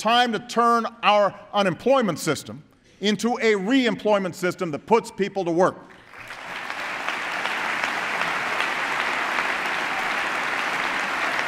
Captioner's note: applause